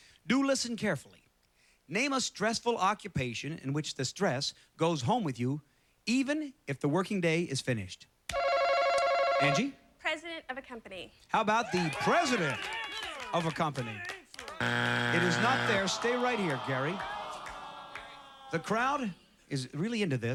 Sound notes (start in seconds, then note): 9.0 chime; 14.6 buzzer; 17.0 audience groans